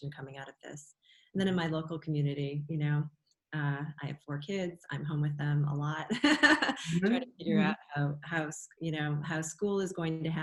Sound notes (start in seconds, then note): 6.1 laughter